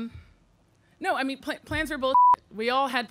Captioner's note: beep